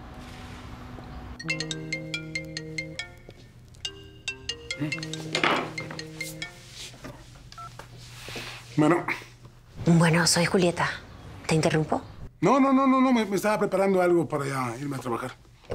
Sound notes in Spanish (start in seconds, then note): 1.4 Suena el celular